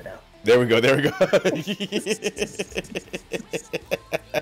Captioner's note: laugh